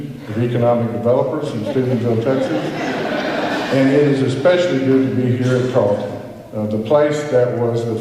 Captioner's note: laughter